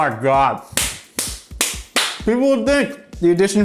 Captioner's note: clapping loudly